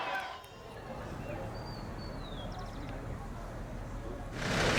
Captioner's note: birds chirping